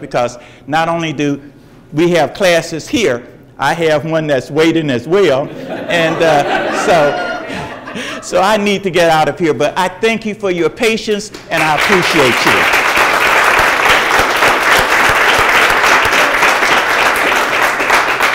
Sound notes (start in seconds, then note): 5.4 audience laughs; 14.0 audience applauds